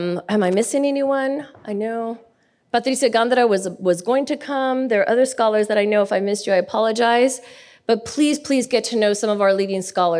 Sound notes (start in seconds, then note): none